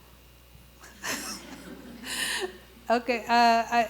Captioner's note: laughs